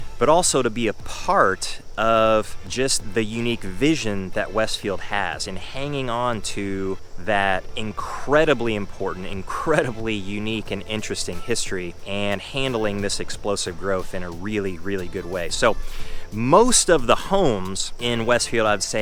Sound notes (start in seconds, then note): 10.3 chuckling